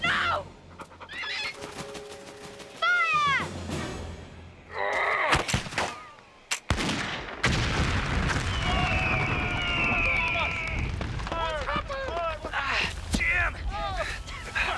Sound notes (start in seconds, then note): 4.8 thudding; 6.4 gun firing; 6.8 booming; 9.4 men yelling; 14.5 gentle music